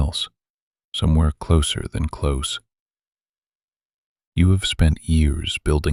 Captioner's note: quiet and steady